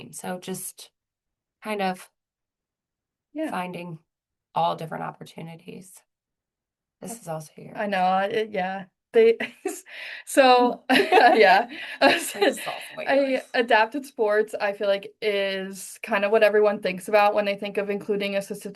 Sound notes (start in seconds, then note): 9.1 laughter